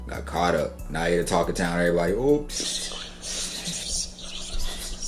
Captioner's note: whispers